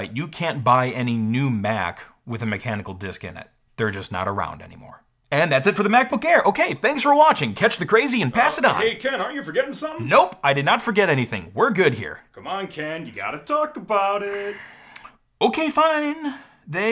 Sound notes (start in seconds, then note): 6.5 rushed Tone; 14.2 sighs